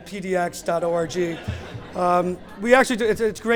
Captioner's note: laughter